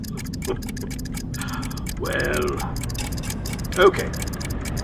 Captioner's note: laughing